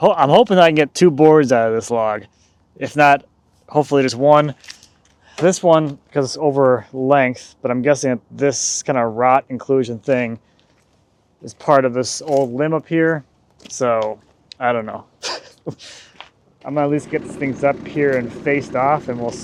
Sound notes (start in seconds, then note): 15.2 chuckles